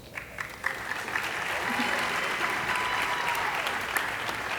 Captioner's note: audience applauding